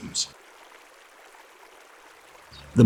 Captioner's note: park ambience